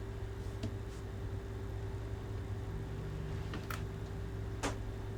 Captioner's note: air conditioner humming continues